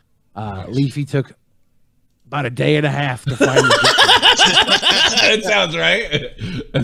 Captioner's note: laughing